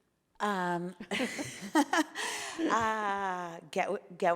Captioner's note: laughing